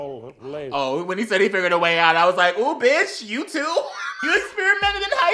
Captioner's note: wHEEZE